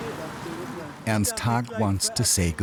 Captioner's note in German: spricht Deutsch